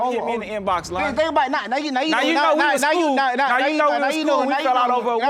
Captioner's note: stammering